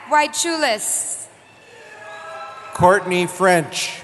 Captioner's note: cheering